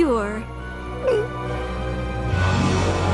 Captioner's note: gulp